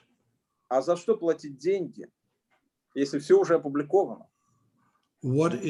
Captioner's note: speaking Russian language